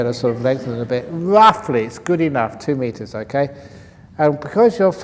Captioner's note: laughs